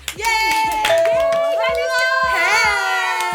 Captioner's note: all cheering